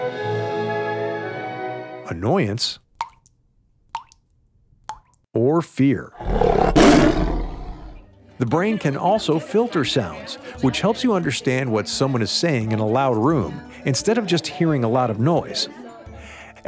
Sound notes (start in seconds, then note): 0.0 gentle music; 3.8 water dripping; 6.1 tiger roaring